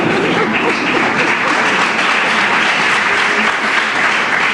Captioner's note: laughter; applause